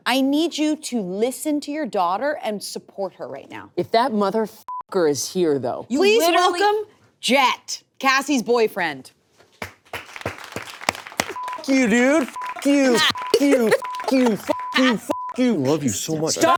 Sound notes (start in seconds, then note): 4.7 beep; 9.9 crew clapping; 12.2 beep